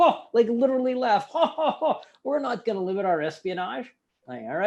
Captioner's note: imitates laughter